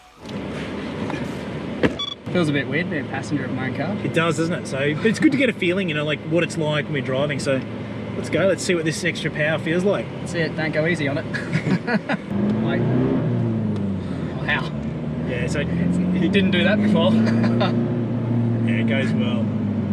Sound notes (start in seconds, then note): 11.3 both laughing; 12.1 vehicle accelerating, engine revving; 17.0 both laughing